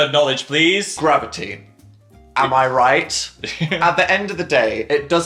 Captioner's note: laughs